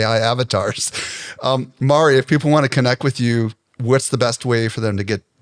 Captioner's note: laughs